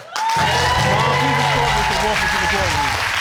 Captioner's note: audience applauding